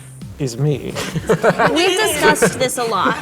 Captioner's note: all laughing